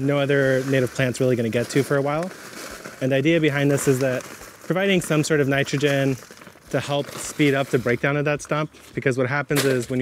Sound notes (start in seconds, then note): 2.4 soil falls